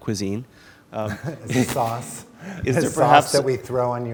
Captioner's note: chuckles